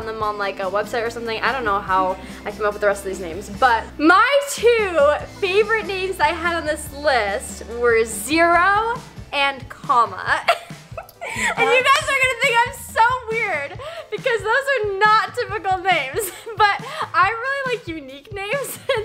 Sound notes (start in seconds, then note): 10.4 chuckles